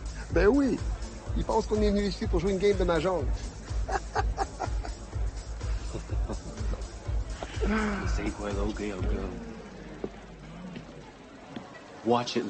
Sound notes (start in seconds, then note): 0.1 LaFleur speaking French; 3.4 thug laughing; 8.3 speaking foreign language